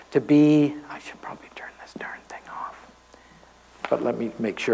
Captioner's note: whispers